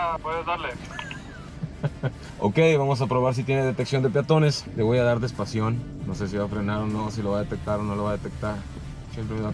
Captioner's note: laughter